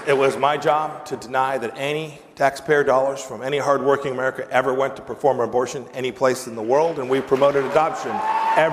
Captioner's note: applause